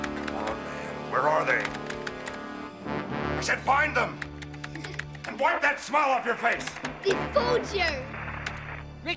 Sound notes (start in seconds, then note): 4.7 giggling